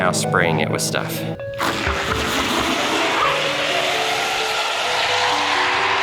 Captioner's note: car squealing and screeching